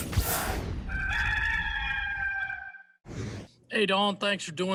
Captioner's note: cock crows